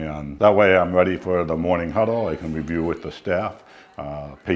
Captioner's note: indistinct chatter